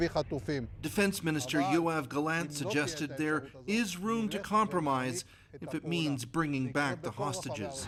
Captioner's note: speaking alternate language